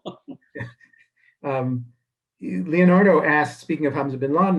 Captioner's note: laughing